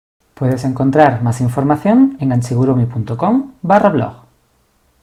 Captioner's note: in Spanish